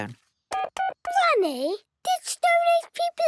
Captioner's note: dial tones beeping